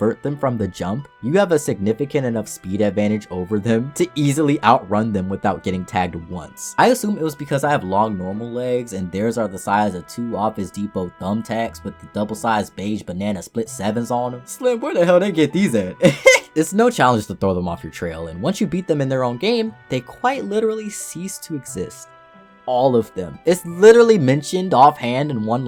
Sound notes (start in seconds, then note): 16.0 chuckle